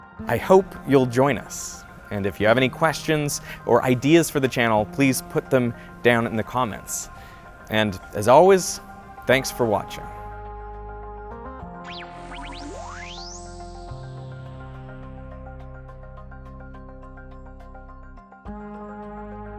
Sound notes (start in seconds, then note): 10.0 techno music; 11.9 logo whizzing